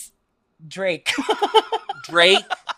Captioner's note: laughs